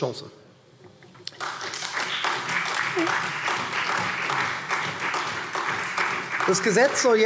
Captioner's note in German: Beifall SPD und vereinzelt Freie Demokraten